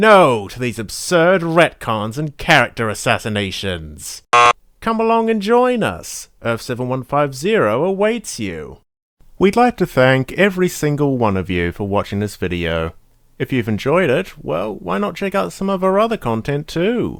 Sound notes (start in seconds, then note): 4.3 buzzer sound